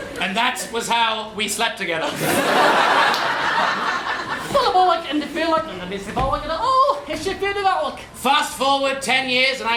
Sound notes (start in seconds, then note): 4.5 czech gibberish